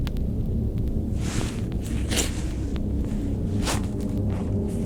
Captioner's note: leaves rustling